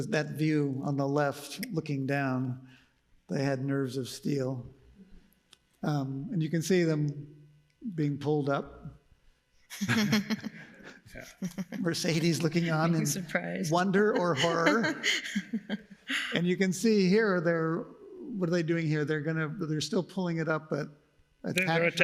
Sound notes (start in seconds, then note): 9.7 laughs; 14.0 laughs